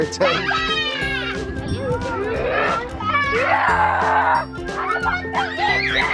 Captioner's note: girls yelling and growling playfully